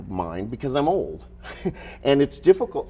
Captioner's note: chuckles